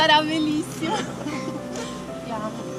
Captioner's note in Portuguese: risos